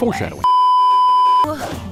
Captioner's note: beeeeeep